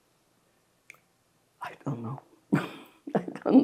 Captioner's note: laughing